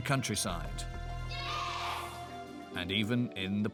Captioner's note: children In Unison